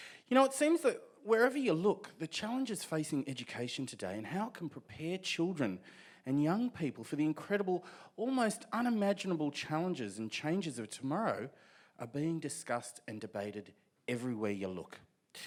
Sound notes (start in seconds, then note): none